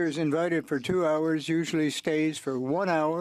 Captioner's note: speaking French